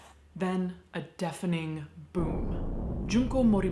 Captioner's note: bomb exploding